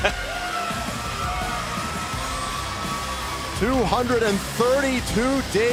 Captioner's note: laughter